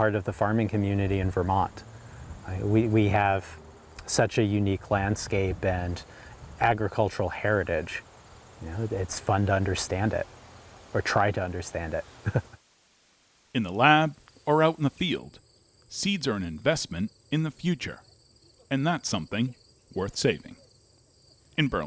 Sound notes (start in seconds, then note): 12.2 chuckles